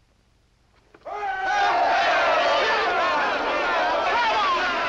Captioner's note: shouts of hurray and congratulation